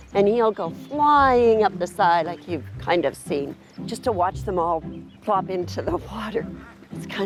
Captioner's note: none